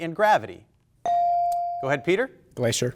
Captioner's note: buzzer chimes